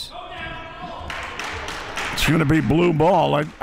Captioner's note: claps